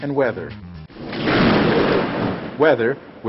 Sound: thunderstorm striking

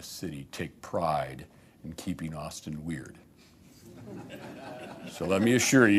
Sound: laughter

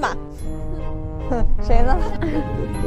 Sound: humph

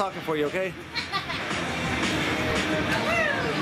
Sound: laughs

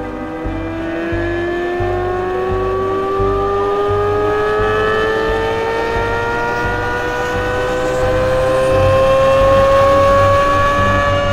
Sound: engine sounds

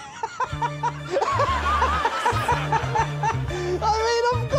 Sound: laughing

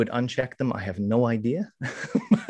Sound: chuckles

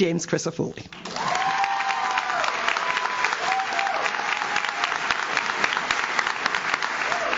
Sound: audience claps; audience cheers

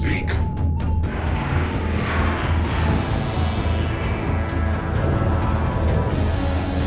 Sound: suspenseful synth music; spacecraft humming

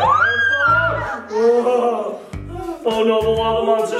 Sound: mom screaming

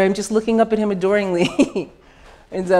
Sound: laughs

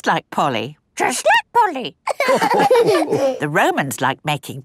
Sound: all laughing

